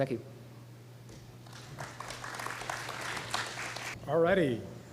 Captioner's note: applause